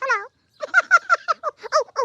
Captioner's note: giggles